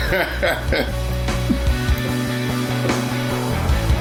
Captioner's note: laughing